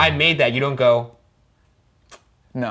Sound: kissing

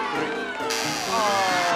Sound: buzzer

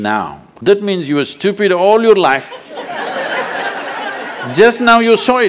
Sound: laughter

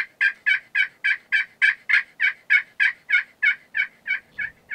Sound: turkey yelping

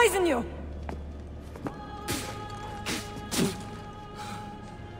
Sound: Cesare spits

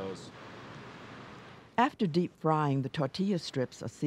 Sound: voiceover

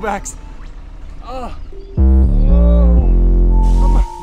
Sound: groaning intensifies

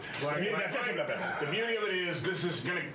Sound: laughter

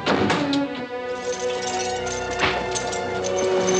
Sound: object thudding; whip cracking

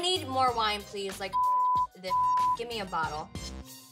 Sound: beep

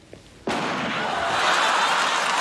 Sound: gun shot; crowd laughing and clapping

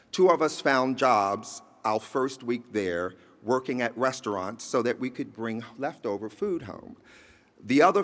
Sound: none

